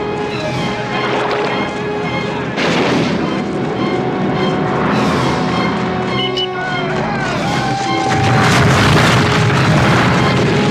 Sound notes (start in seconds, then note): 6.9 shouting; 8.0 explosion